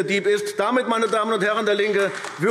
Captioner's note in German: Beifall AfD